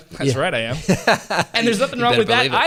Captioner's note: laughter